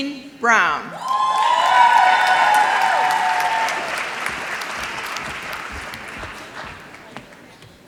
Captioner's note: applause